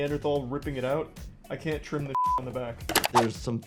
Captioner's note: beep